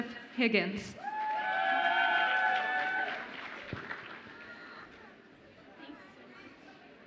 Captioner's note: audience applauds and cheers